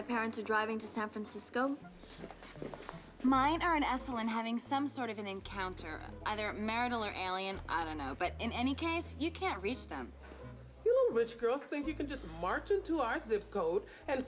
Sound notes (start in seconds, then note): none